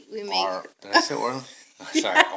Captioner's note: laughing